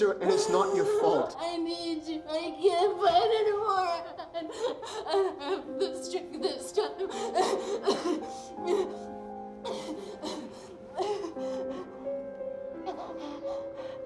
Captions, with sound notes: And it's not your fault. - I need you. I can't fight anymore. I don't have the strength this time. (sobbing) (dramatic orchestral music)